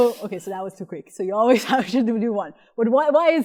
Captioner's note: laughter